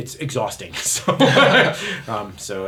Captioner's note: laughter